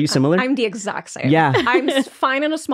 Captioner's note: laughing